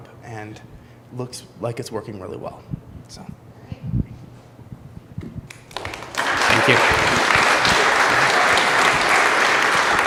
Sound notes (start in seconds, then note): 5.6 audience applause